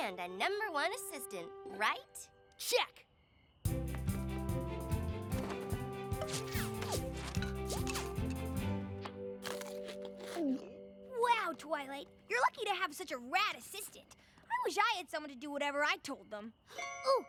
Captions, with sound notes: AND A NUMBER-ONE ASSISTANT. RIGHT? CHECK! [ ZIP! ZIP! ZIP! ZIP! ZIP! ZIP! ] [ MUNCH! MUNCH! GULP! ] WOW, TWILIGHT! YOU'RE LUCKY TO HAVE SUCH A RAD ASSISTANT. I WISH I HAD SOMEONE TO DO WHATEVER I TOLD THEM.